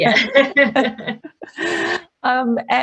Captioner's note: both laugh